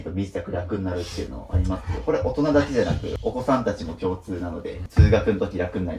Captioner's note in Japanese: 鼻息